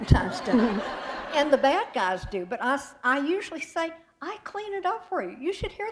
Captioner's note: laughter